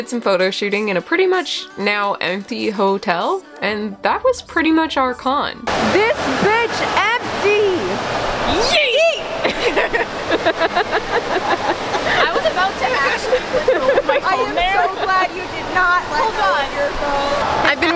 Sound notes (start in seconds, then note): 9.4 laughter